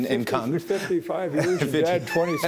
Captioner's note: laughing